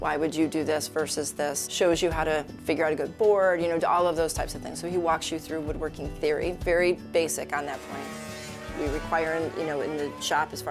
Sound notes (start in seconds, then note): 7.6 machinery whirring